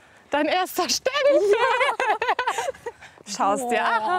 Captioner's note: laughing